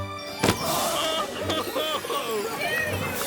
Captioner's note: purse thuds